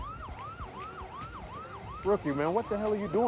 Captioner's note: sirens whirring